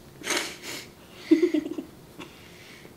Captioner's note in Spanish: se ríe